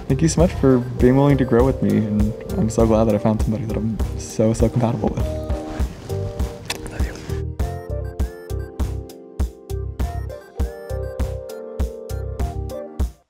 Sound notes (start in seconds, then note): 6.6 whispers; 7.9 light music